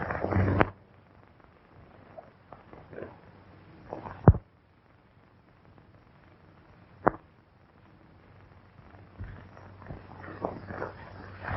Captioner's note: pounding